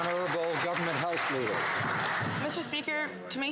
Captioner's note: some Applause